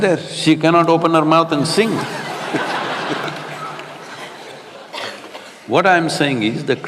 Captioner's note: laughter